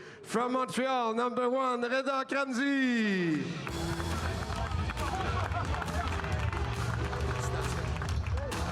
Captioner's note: speaking French